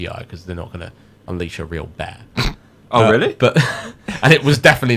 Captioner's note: sniggers